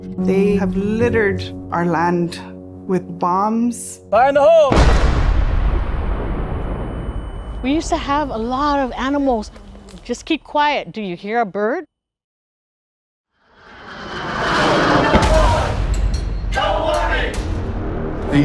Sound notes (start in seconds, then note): 13.4 silence; 13.6 plane noise